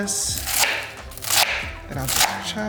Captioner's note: knife thumping